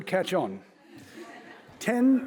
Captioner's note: audience laughing